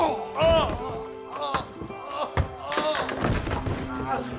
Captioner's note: Brandon groaning